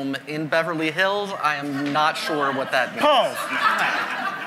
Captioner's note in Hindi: हँसी